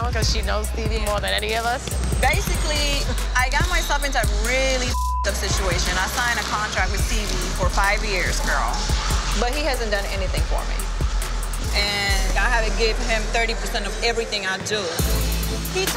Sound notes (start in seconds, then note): 4.8 beep sound